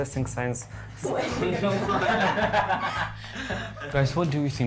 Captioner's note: laughter